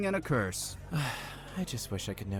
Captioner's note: sighs